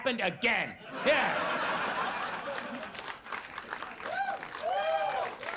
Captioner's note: audience laughs